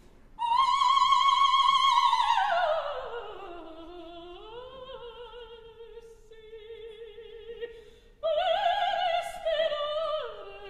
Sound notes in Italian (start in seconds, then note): none